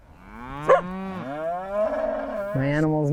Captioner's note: cow mows; dog barks